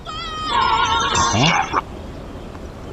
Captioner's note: radio plays